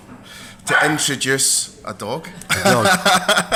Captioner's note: dog barking; laughs